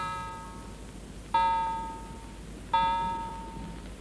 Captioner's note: bell dings